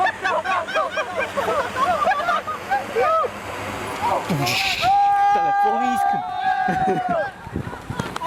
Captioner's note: laughter and celebrating